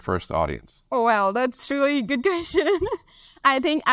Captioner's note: laughs